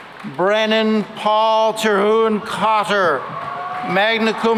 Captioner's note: applause; cheering and applause